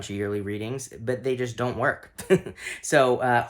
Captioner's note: laughing